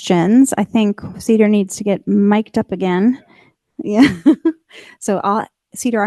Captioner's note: laughs